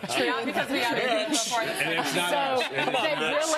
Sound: laughter

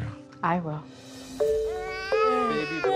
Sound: baby cries

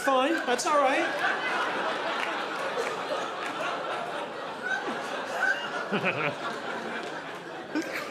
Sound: audience laughing

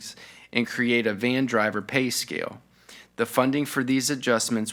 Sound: none

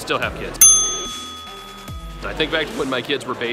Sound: bell dings

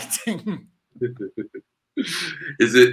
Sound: giggles

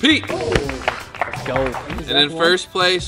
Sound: claps

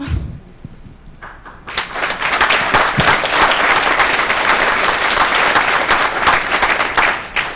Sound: audience applause

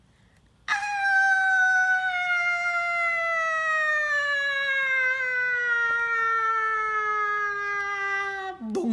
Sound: screaming

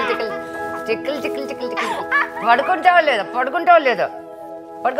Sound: tickling

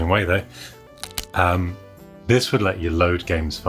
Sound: cracking sound

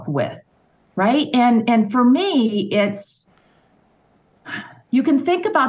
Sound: sighs

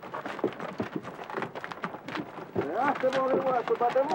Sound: noise of cart

